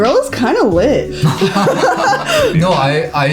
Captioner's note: all laugh